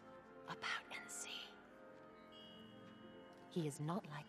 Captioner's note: whispers